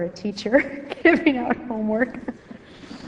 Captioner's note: woman laughs